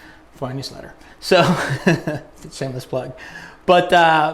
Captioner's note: laughs